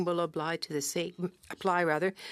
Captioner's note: speaking French